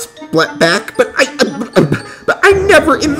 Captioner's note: stammers in disbelief